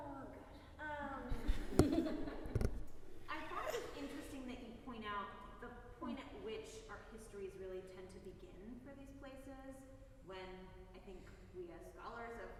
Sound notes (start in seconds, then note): 1.4 audience giggling